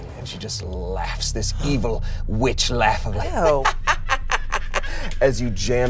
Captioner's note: cackles